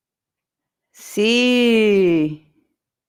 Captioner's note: Spanish